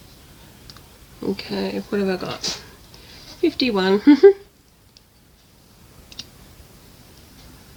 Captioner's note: laughs